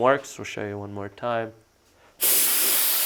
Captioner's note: spraying sound